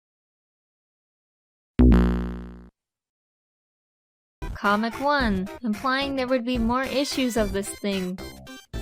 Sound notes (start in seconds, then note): 1.8 Sonic The Hedgehog "Life Lost" Sound